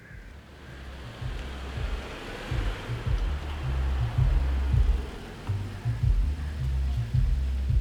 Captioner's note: vehicle humming; upbeat music on car radio